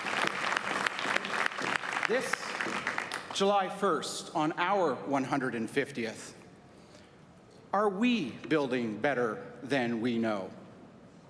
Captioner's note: applause